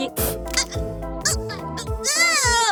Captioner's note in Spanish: Tartamudea